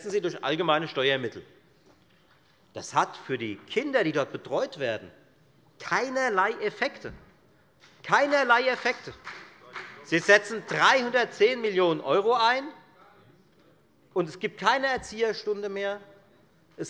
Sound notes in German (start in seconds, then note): 7.8 Beifall bei der FDP